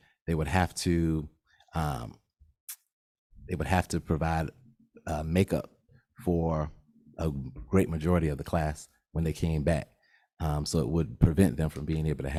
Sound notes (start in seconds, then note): none